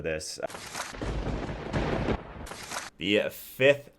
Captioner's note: thunder crackles